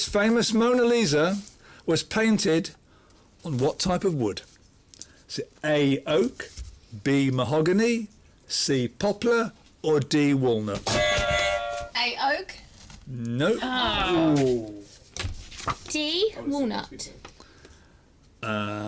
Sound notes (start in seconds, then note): 10.9 buzzer